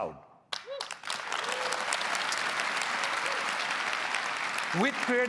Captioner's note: applause